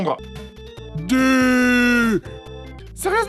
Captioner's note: imitating a stupid person